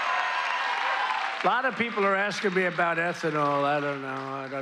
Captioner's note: cheers and applause